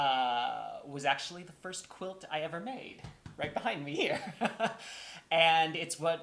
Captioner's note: laughter